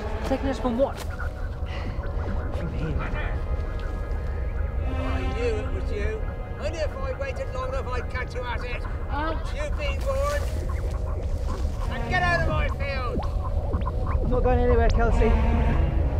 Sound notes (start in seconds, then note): 13.2 weird space sounds